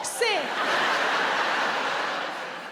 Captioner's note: audience laughs